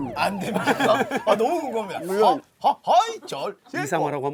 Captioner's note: mocking